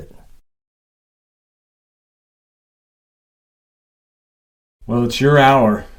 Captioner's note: silence